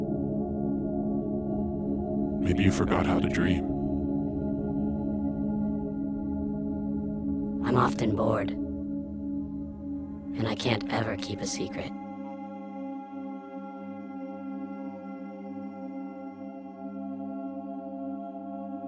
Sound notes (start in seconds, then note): 2.6 low Voice; 12.7 gentle music